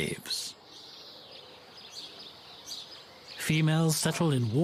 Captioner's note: birds chirping